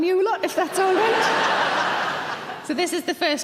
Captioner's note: audience laughing